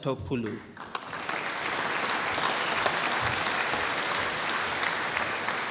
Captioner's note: applause